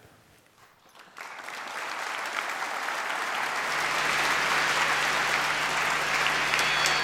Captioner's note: applause